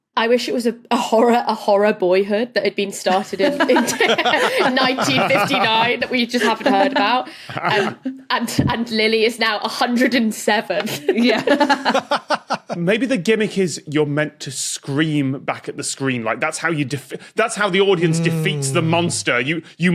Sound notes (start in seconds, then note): 3.1 group laughs in turn; 10.8 laughs; 11.2 guffaws